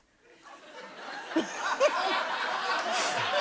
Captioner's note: laughter